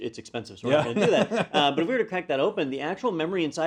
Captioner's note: laugh